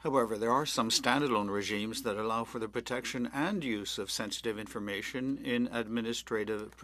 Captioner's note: speaking French